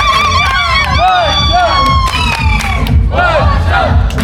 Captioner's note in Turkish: coşkulu tezahürat